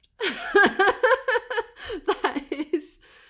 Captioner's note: laughing